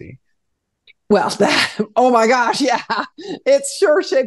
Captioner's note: laughs